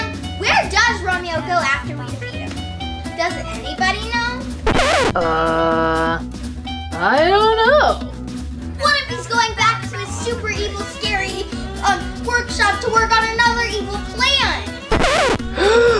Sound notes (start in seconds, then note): 5.4 Catboy sighing; 15.5 Catboy gasping